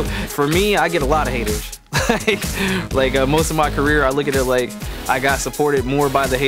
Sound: laughs

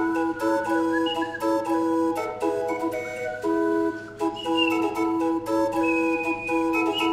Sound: Japanese warbler whistle

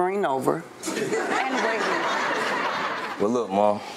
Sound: audience laugh

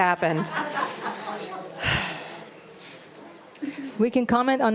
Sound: audience laughing

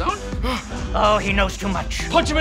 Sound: gasp

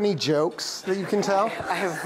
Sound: laughter

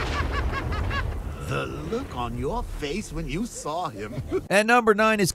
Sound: Joker laughing; laughs

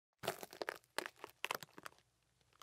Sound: footsteps on loose rocks

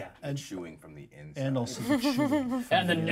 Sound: speaker chuckles

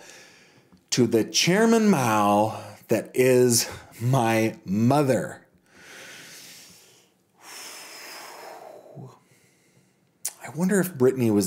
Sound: take breath

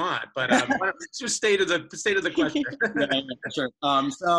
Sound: laughing

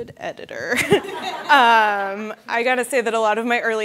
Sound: audience laughing

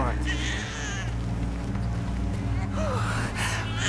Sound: baby crying

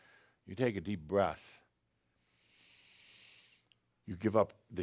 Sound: Adamus takes a deep breath

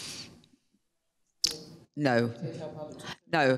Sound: man speaking off microphone

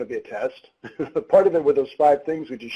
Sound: laughs

